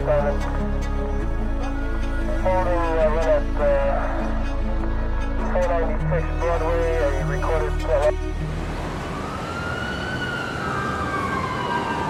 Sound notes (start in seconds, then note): 8.7 siren blaring